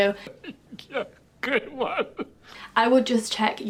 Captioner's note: man laughing